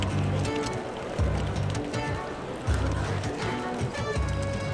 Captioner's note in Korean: 웅성대는 대화 소리